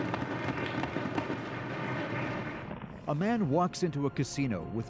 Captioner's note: applause